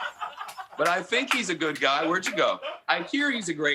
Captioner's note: laughter